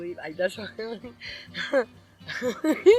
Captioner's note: laughing